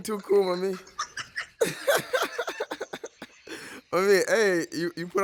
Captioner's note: laughs